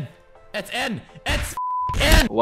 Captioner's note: beep